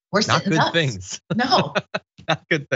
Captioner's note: laugh